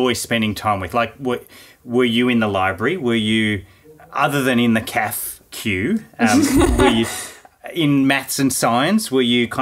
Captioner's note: laughing